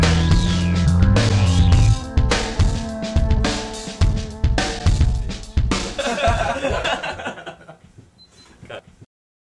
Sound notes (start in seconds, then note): 5.3 music fades out; 5.9 laughter